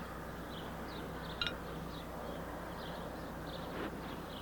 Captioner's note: birds chirp